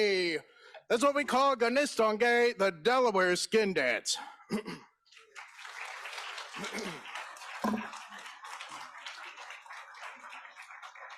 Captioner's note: in Native Language; applause